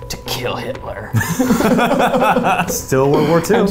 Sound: laughs

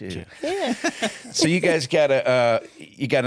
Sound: laugh

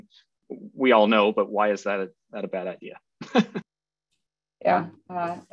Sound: laughs

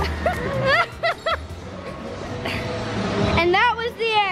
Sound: laughing

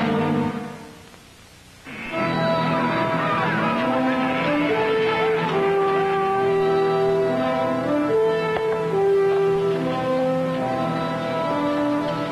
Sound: cattle mooing

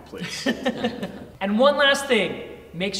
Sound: laughter

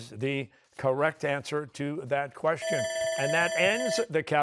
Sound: bell ringing

